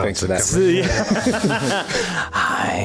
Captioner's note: laughs